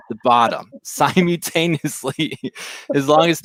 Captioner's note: laughs; laughs